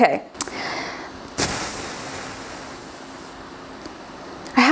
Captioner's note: sighs